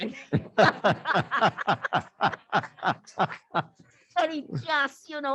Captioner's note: laughter